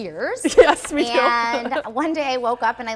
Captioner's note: chuckling